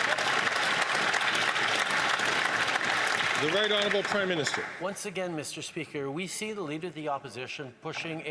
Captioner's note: some Applause